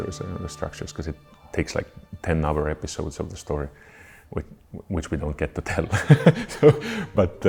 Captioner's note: chuckles